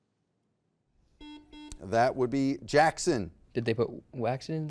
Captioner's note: buzzer beeps